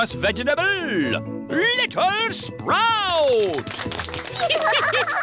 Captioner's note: applause; all giggling